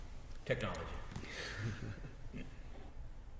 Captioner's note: chuckling